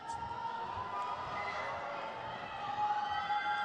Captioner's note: crowd cheers